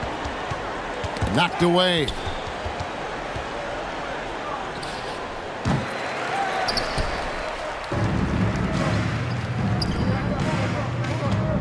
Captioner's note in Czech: Potlesk